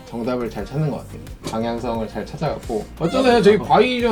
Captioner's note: chuckle